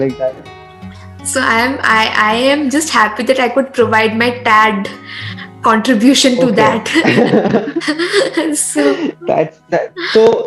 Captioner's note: laughs